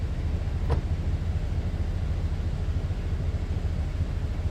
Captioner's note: door clunks